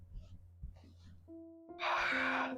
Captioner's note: gasps